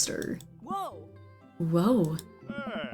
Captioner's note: whoas